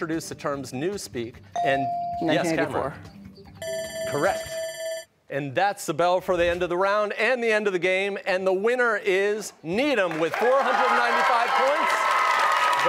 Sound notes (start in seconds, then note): 3.6 bell ringing